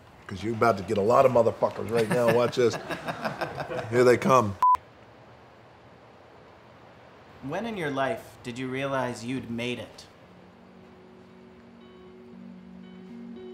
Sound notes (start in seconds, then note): 1.8 background laughter; 10.1 relaxing music